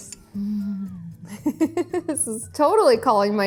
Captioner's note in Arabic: ضحكة ناعمة